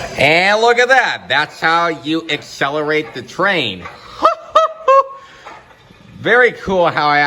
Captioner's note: laughing